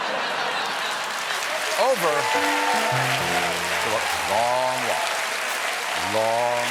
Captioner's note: laughter; applause